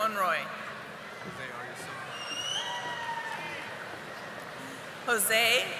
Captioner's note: audience applauding